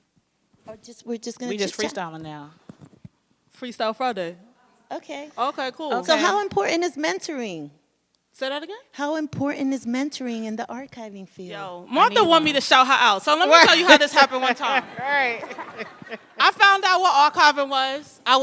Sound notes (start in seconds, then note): 13.6 audience laughs; 14.5 laugh